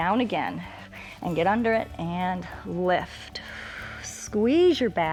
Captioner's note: exhales